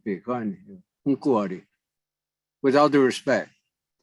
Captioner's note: native language spoken